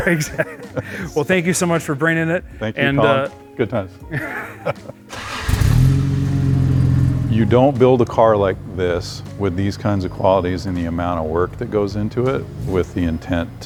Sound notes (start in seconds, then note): 5.1 car engine revving